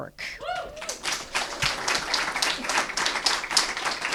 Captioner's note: applause